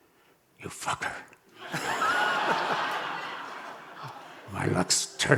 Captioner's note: audience laughing